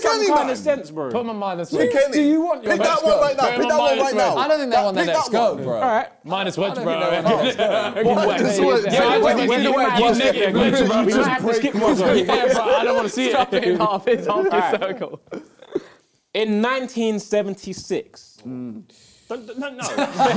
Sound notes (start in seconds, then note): 7.6 both laughs; 8.5 both mumbling